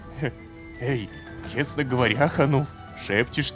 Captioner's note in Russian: шепотом